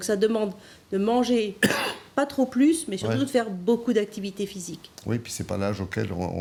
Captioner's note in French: raclement de gorge